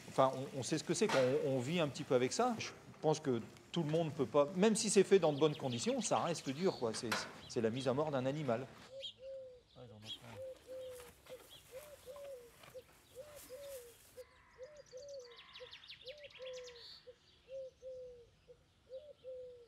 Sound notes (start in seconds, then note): 9.8 various bird noises